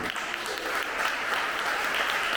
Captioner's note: applause